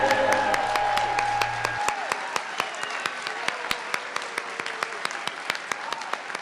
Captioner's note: audience clapping and cheering